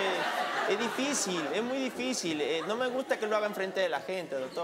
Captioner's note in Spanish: Risas